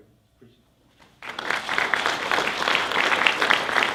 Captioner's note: applause